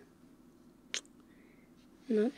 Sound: kiss

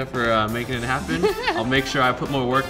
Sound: laughter

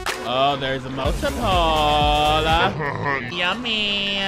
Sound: video buzzes; laughs

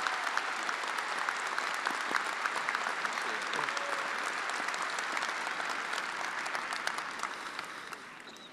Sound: attendees applauding

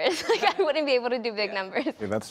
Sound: laughter

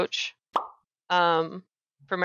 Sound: pop!

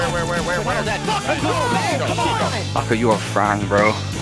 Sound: yelling

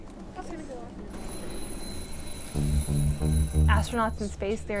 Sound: alarm ringing

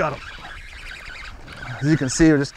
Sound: rod recoiling

